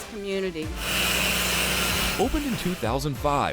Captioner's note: grinder buzzing